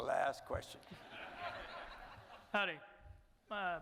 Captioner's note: audience laughing